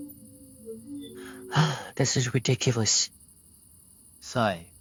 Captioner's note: sighs